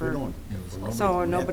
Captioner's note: mumbling